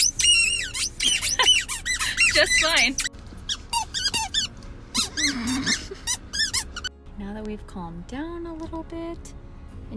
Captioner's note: tennis ball squeeking